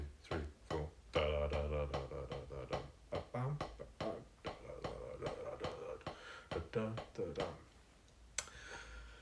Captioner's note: beatboxing